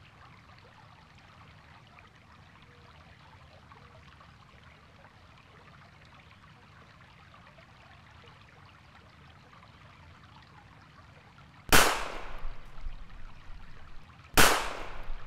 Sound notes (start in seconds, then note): 11.7 gun shot; 14.3 gun shot